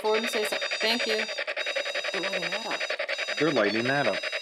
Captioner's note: machine beeps